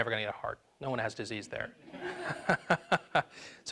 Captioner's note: laughs